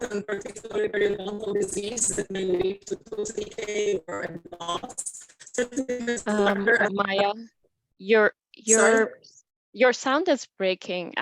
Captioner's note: audio interruption